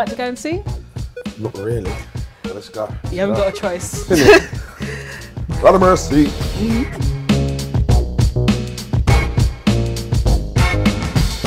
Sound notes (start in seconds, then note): 3.3 laughing